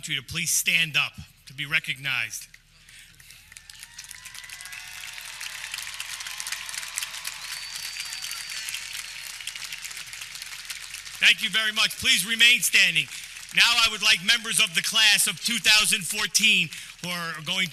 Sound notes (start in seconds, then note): 3.9 audience clapping